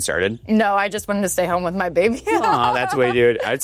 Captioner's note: chuckles